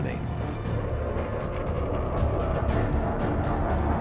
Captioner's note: engine roars